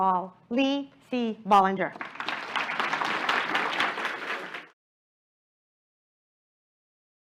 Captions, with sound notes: all Lee C. Bollinger. [APPLAUSE]